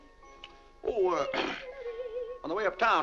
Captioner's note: clears throat